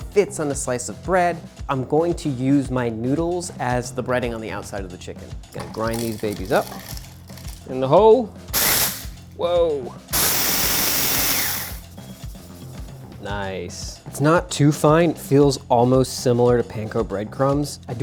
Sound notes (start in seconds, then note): 10.1 blender whirring